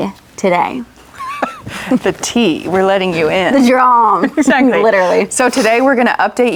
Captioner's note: laughs